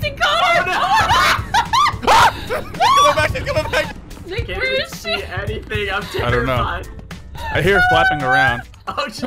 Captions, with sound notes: She's coming back! She's coming back! (screaming) Where is she? I hear her flapping around.